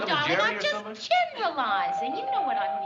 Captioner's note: doorbell ringing